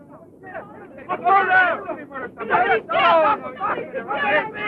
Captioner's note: people clamoring